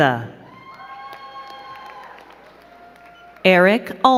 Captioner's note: crowd cheering and clapping